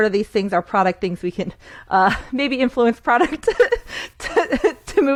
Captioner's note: laughs